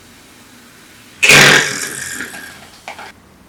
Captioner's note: screaming